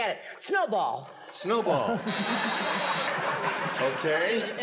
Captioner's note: buzzer